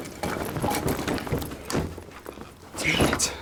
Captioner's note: bag rattling